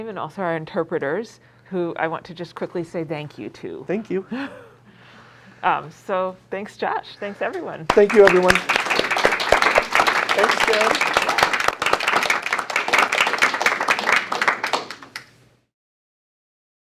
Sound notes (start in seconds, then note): 9.2 applause